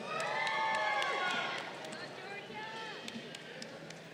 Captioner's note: crowd cheering